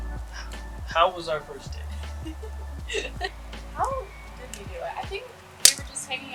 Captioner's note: giggles